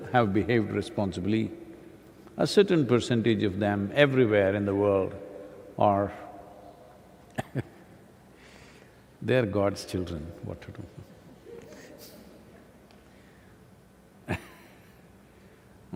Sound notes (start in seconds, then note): 8.1 laughs